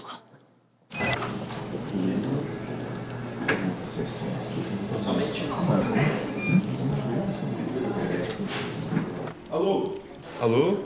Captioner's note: phone ringing; background chatter